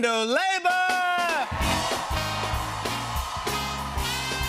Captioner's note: cheers and applause